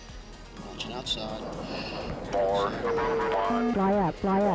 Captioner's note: radio chatter